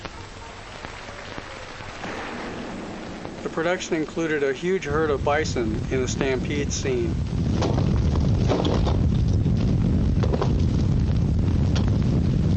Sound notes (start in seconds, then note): 0.0 people applauding; 7.4 bison thumping